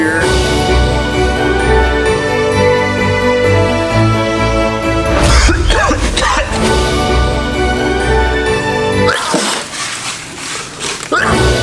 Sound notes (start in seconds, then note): 0.1 fantasy music; 5.2 coughing; 6.6 fantasy music; 9.0 sneezing